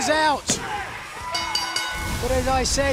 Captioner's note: bell ringing